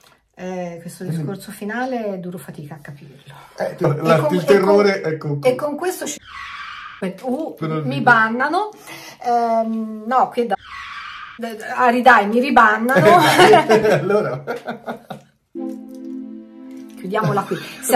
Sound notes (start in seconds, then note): 9.3 laughter